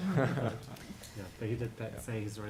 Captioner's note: laughter